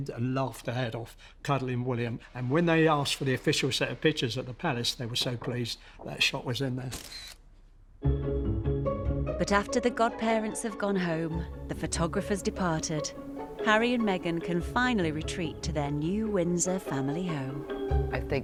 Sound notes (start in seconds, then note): 6.9 camera flicks; 8.3 lively music